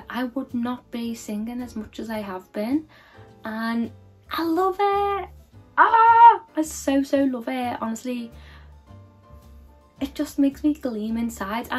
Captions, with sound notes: I would not be singing as much as I have been. And I love it, (screaming) I so so love it. Honestly, it just makes me gleam inside